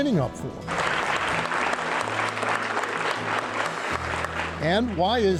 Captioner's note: audience applauds